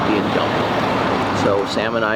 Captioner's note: engine revving